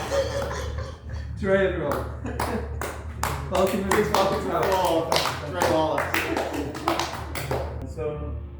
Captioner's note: applause